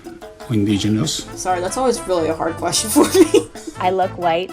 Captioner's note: laughter